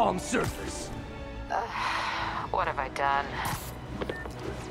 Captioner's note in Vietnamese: Thở dài